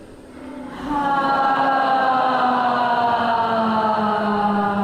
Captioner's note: loud sighing